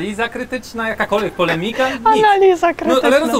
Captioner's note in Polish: śmiech